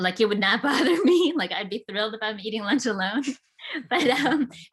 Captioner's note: laughs